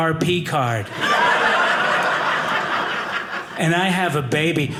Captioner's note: audience laughing